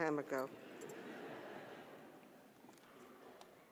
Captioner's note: audience laughing